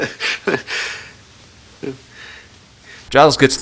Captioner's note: Giles laughing